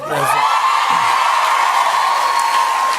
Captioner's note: cheers and applause